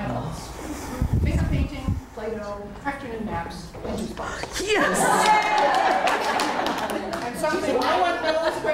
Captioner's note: laughter and Yays!